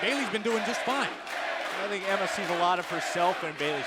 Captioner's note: crowd cheering